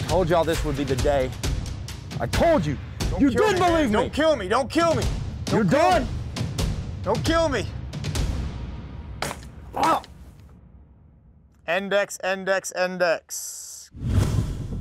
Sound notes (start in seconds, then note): 9.2 gun fire